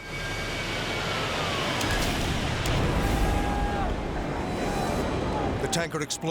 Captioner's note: firefighters yelling; explosion pounds